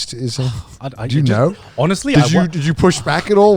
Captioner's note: sighs